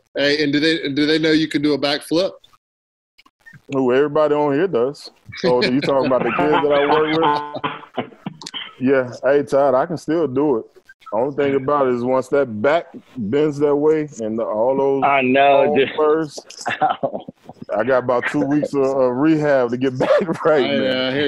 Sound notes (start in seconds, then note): 7.6 laughter